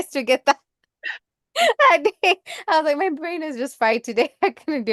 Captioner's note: laughs